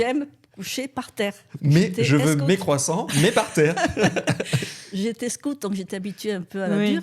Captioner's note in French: rires